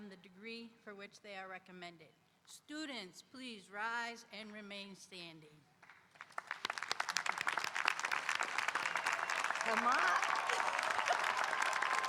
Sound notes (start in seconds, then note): 5.8 audience applauding; 10.4 laughs